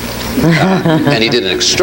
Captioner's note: laughs